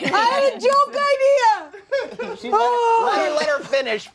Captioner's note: laughter